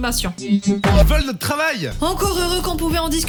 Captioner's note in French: bruits robot